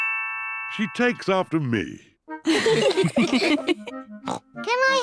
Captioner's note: all laugh; snorts